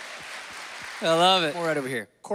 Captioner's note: applause